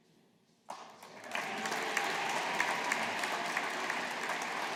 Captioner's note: audience applauding